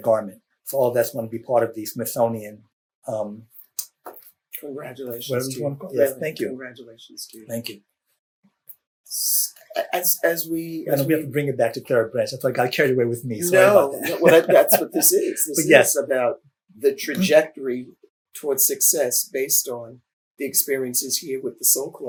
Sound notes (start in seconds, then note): 13.4 laughs